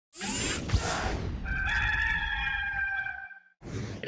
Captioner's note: rooster crows